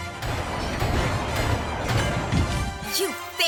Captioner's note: clanging